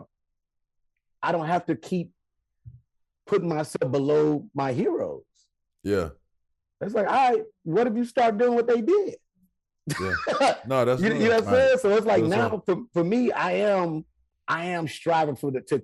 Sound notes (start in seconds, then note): 9.9 Rel laughing